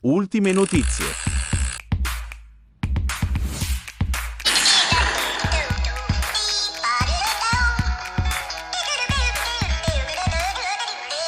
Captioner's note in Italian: Applauso